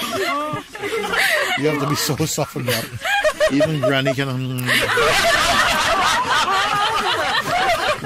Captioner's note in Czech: smích